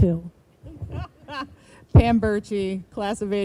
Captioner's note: woman laughing